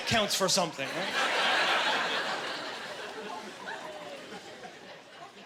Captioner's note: laughing